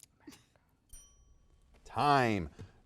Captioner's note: bell dings